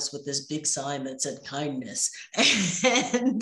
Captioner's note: laughing